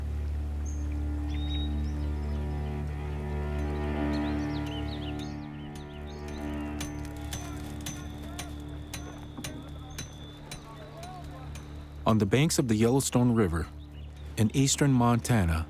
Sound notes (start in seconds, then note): 5.7 tools clanging